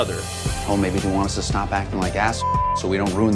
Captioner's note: beeps